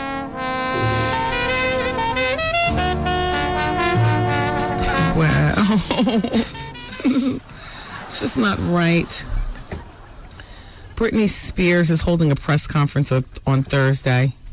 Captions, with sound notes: (jazz music) Wow. (laughing) It's just not right. Britney Spears is holding a press conference on Thursday.